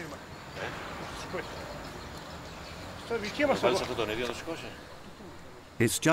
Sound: people chattering; speaking in Greek

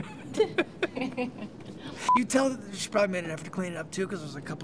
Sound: laughs

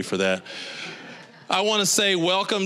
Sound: audience laughing

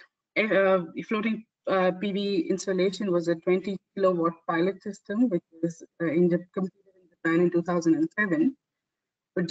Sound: audio static

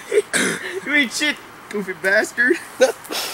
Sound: laughs

